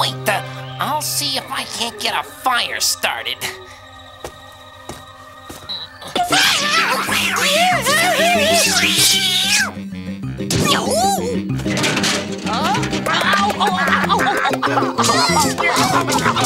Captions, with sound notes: Wait, I'll see if I can get a fire started. (yelling) (cat shrieking) (grunting)